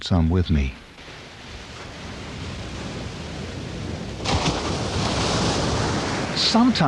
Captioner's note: waves crashing; waves crashing continues